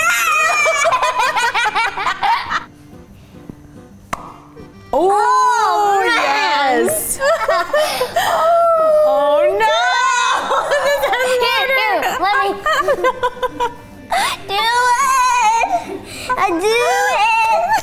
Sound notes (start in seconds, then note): 0.0 laughs; 4.0 egg smacks; 7.0 laughs; 10.1 laughs